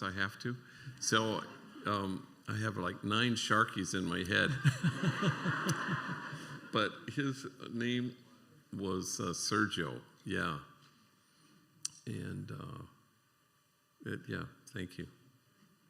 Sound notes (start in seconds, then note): 4.4 laughter